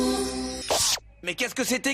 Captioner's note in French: zap